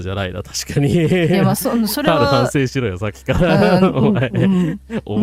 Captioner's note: laughter